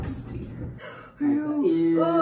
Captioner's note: gasps